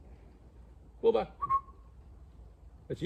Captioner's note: whistle